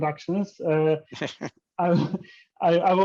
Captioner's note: chuckles